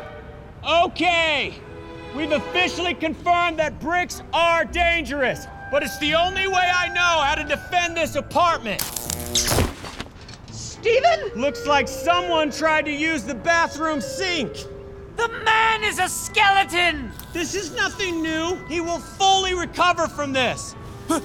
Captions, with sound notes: >>OKAY, WE'VE OFFICIALLY CONFIRMED THAT BRICKS ARE DANGEROUS, BUT IT'S THE ONLY WAY I KNOW HOW TO DEFEND THIS APARTMENT. [ELECTRIC BUZZING] >>STEPHEN? >>LOOKS LIKE SOMEONE TRIED TO USE THE BATHROOM SINK. >>THE MAN IS A SKELETON! >>THIS IS NOTHING NEW. HE WILL FULLY RECOVER FROM THIS.